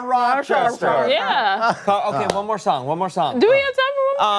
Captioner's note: laughter